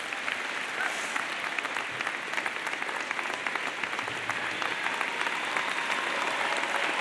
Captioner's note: clapping